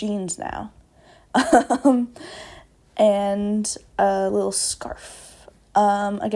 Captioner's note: laughs